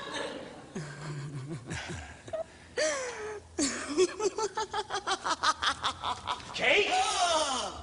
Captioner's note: laughs